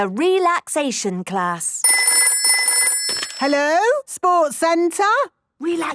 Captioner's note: phone ringing